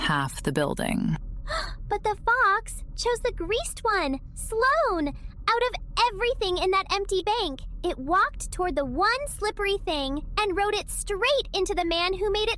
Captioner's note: gasp